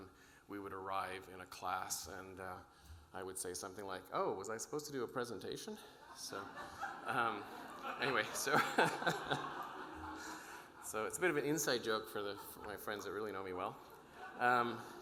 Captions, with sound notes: when we would arrive in a class and I would say something like, "Oh, was I supposed to do a presentation?" (audience laughing) So, anyway, so it's a bit of an inside joke for my friends that really know me well.